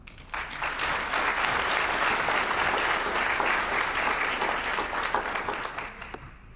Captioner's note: applause